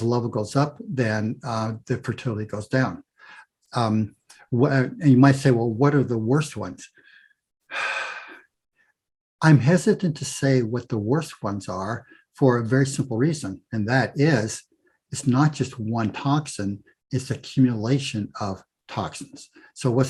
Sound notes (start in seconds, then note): 7.7 big sigh